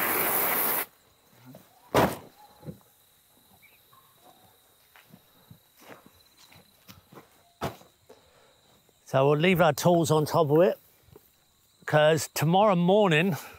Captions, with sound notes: [insects chirping] So we'll leave our tools on top of it. Because tomorrow morning,